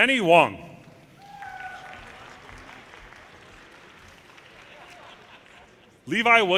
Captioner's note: audience cheers and applause